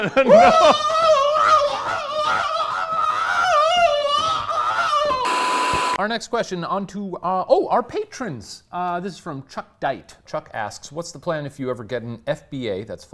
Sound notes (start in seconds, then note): 0.0 laughing; 0.2 screaming; 5.2 static crackles